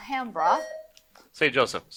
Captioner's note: buzzer buzzing